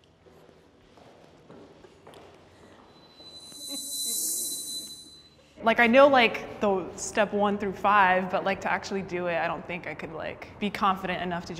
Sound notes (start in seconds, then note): 2.9 bell ringing